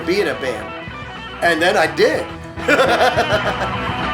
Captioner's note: laughs